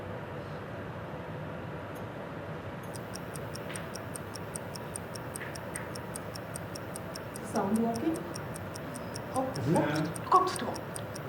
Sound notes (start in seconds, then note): 2.9 clock ticking